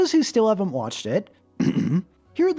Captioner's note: ahem